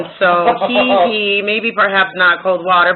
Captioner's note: laughter